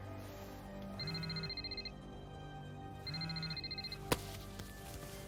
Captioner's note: phone ringing